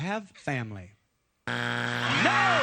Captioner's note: buzzer